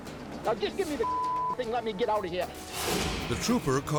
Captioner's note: tense music; beep